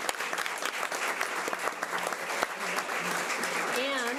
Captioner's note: audience applause